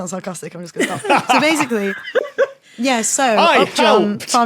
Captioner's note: others laughing